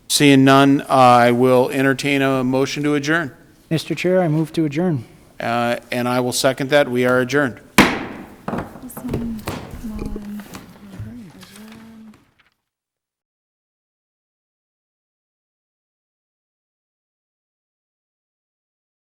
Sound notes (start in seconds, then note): 7.7 gavel bangs; 8.6 people chattering softly